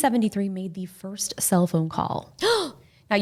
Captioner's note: gasps